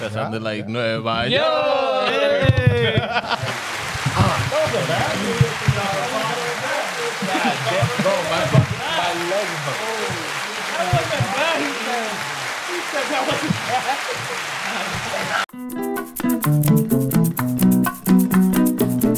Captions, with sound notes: That sounded like no idea. No. (Laughing) (Crowd Chattering) (Upbeat Music)